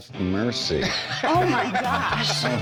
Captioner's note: laughs